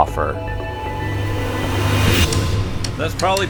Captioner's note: woosh